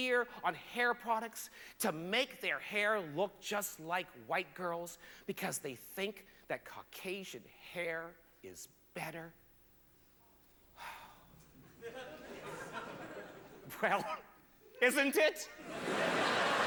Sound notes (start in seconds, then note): 8.3 sighs; 8.3 sparse laughter